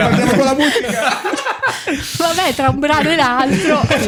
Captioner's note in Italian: laughter